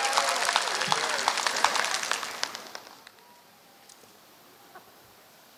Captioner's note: applause